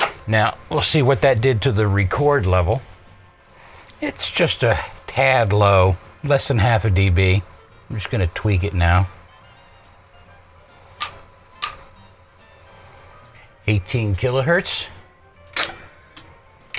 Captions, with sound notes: Now we'll see what that did to the record level. It's just a tad low, less than half a dB. I'm just going to tweak it now. 18 kilohertz. (clicking)